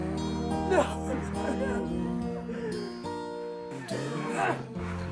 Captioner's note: assailants grunting; whimpers